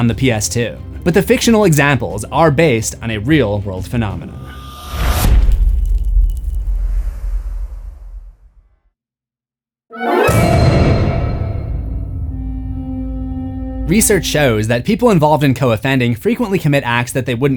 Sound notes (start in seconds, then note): 4.5 impact